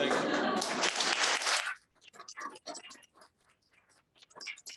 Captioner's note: audience applauding